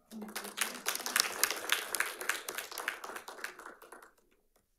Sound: audience applauding

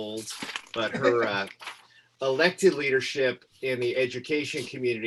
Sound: laughter

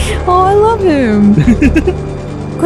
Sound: chuckles

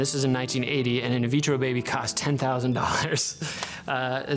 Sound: chuckles

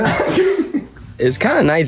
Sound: laughs

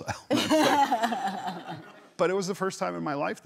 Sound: Sarah laughs

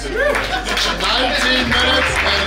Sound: cheering and clapping

